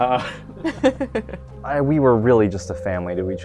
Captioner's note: laughing